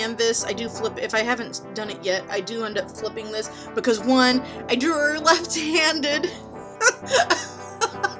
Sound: laughing

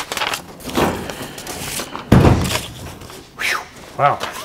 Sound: hood thudding

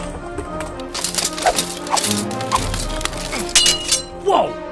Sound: weapon swishing

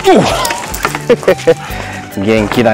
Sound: laughs

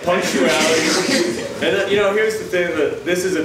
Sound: audience chuckles

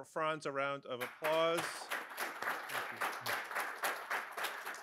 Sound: audience applauds

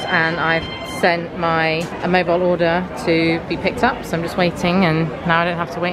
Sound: none

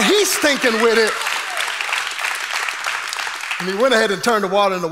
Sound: congregation applauding

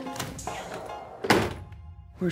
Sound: thud

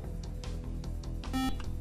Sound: buzzer

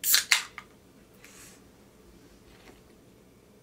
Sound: can cracking

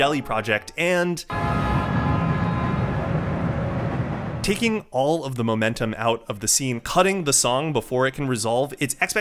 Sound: train Sound

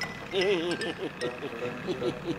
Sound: laughing nervously

